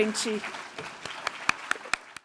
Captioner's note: applause